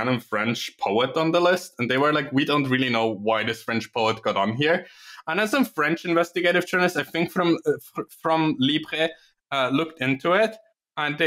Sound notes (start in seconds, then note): none